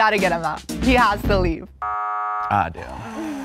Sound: buzzer buzzes

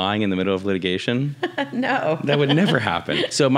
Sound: laughs

